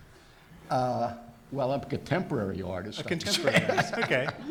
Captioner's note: laughs